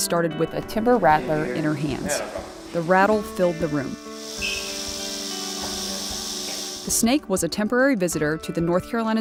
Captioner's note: snake Rattle